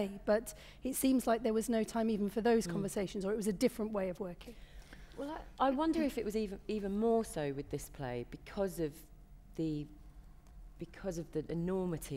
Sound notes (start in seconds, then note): none